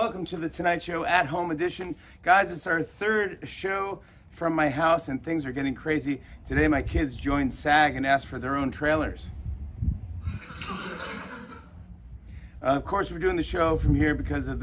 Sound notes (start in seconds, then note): 10.2 recorded laughter